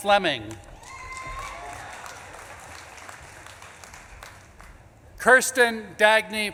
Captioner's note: audience claps and cheers